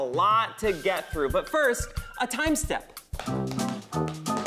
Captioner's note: tapping